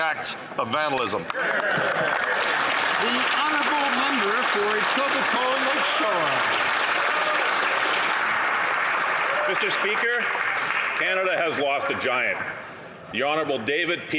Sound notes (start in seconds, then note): 4.7 some Applause